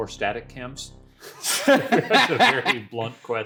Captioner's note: laughing